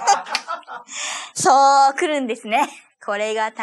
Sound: laughs

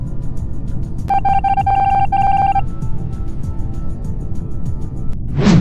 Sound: continuous dial tones

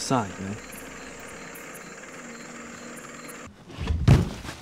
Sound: ACAV sound approaching

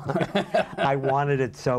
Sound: laughter

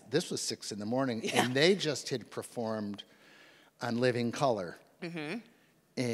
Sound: laughs

